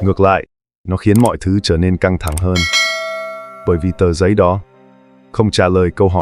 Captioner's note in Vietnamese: chuông